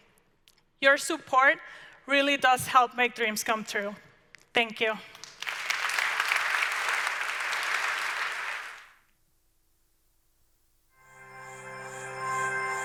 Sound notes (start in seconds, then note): 5.2 audience applauds